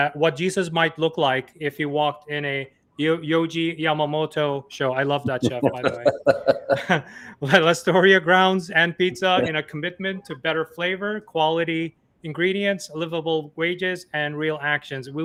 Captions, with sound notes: what Jesus might look like, if you walked in a Yohji Yamamoto Show. I love that show, by the way. (laughs) Alright, Lastoria grounds &pizza in a commitment to better flavor, quality ingredients, livable wages, and real actions.